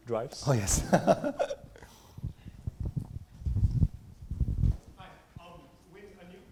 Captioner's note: laughs